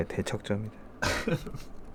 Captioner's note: laughs